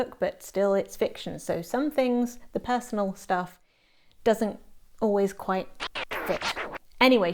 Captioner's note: record scratch noise